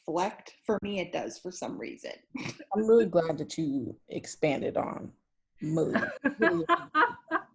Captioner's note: laughing